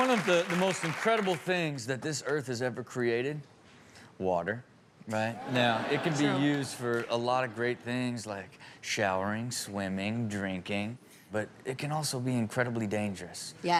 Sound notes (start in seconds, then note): 0.0 audience applause; 5.4 all chuckle